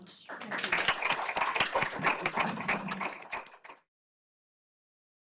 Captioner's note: audience and panel applause